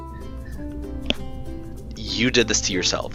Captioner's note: mic noise